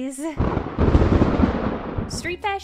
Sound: crash of thunder

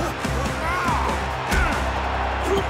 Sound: grunting

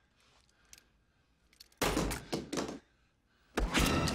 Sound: gun drops

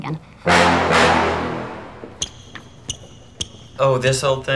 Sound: dramatic hip hop music; shoes squeak

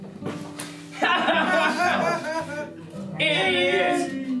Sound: group laughing

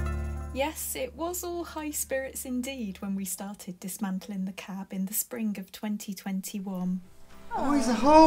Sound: voiceover

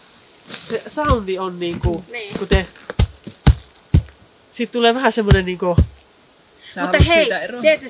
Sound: foot stomps

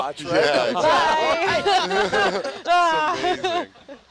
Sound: all laugh

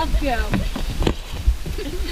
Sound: laughing

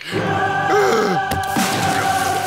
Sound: gasps

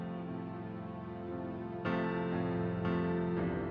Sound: none

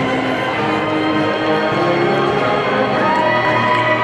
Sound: people cheering

